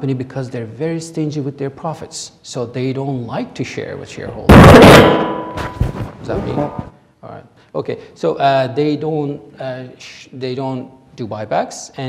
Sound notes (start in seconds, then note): 4.5 clanging